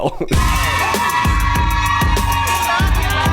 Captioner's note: crowd cheers